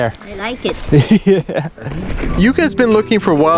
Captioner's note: laughing